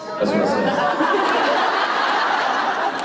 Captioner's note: laughter